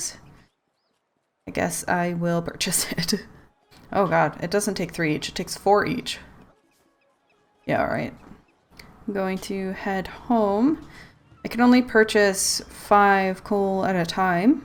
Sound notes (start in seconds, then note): 3.2 laughs